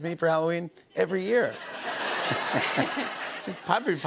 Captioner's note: laughter